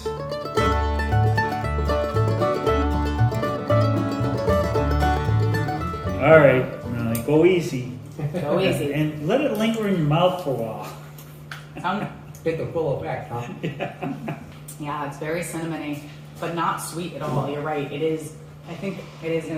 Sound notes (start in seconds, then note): 0.5 upbeat Music; 8.1 laughter; 11.8 laughter; 13.4 laughter